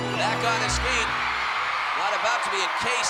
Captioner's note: crowd cheering